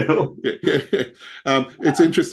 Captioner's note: laughs